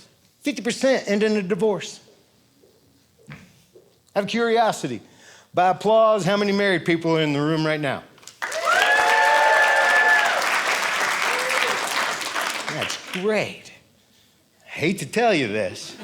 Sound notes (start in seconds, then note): 8.4 audience cheering